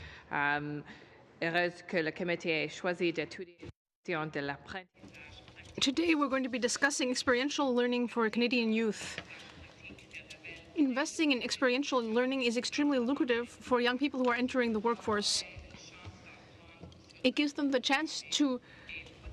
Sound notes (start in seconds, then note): 5.9 speaking in french